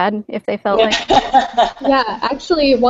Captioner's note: laughter